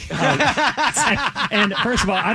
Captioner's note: laughing